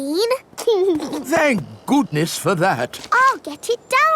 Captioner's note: giggles